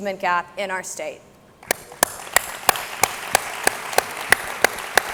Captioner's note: all clapping